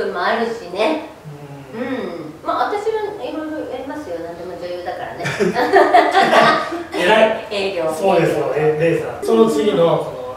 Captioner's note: laughs